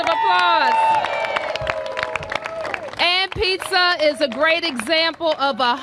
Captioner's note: applause